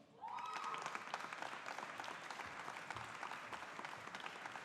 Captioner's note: audience applauding